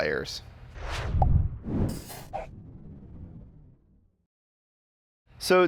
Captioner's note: rushing air